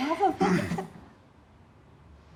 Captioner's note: clearing throat